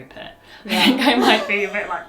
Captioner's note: laughs